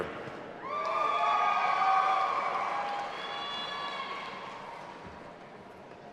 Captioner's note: audience applauding and cheering